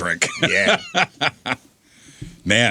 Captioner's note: laughing